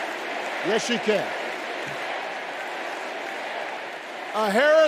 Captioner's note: crowd chanting